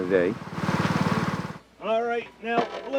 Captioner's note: blueberry picker rumbling